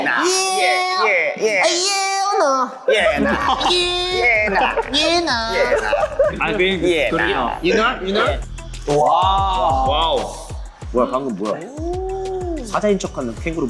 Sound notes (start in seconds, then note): 6.7 laughs; 10.7 speaking Korean